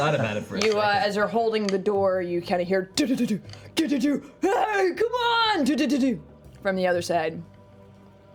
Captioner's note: thudding